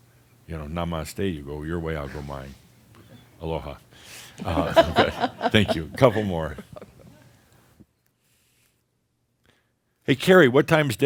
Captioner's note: they chuckle